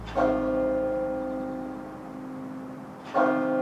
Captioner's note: bell tolls